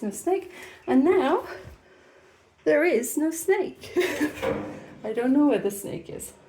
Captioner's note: laughing